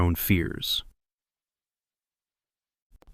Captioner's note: whispers